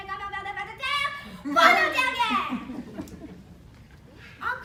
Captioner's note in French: rires